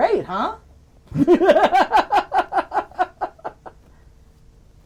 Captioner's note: laughing